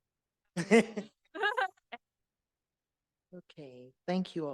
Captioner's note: laughter